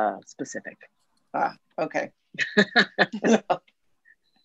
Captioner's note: laughs